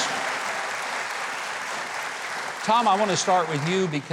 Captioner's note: crowd applauding